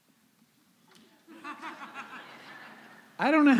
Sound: laughter

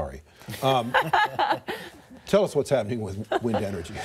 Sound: laughter

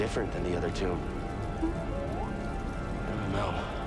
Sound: inquisitive beep

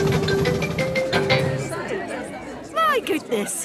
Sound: all murmuring

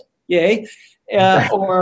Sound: laugh

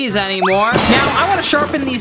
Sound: smashing

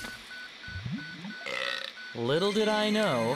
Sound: burps

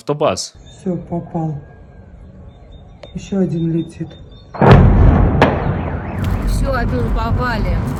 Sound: explosion

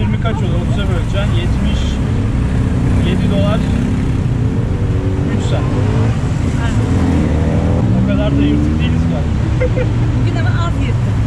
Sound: there is a lot of car noise

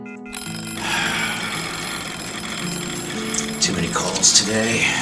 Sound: timer dings; Julian sighs

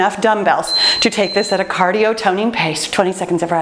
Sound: timer beeps

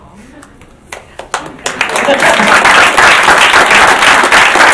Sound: audience claps

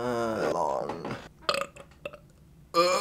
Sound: burps

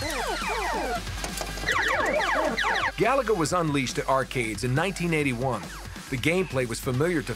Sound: arcade sounds

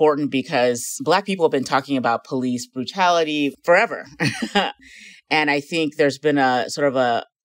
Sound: laughing

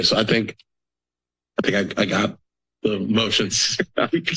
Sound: laughing

